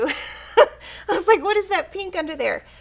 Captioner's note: laughs